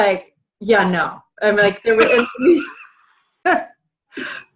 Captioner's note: laughs